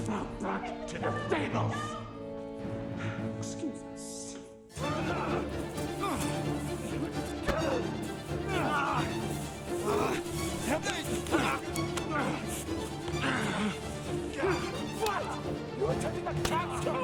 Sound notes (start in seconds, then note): 4.9 dramatic music; 7.5 groaning; 9.6 dramatic music